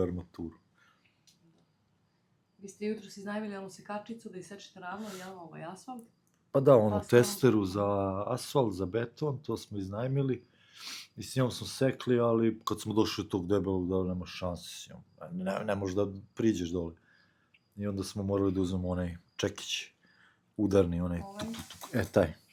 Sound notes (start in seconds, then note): 10.8 snort